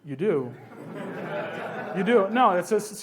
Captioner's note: laughs